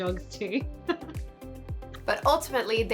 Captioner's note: laughs